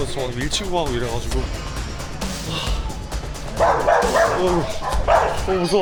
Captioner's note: a dog barking like crazy